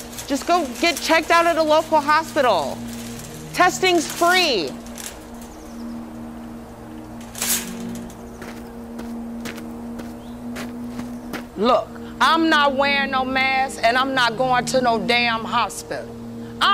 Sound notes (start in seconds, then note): 7.3 trolley rustling; 7.3 footsteps crunching on gravel